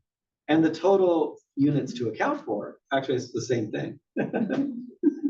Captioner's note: laugh